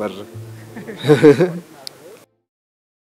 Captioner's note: laughter